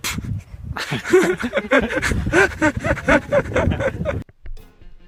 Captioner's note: wild laughter